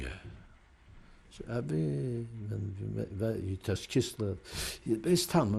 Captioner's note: non-english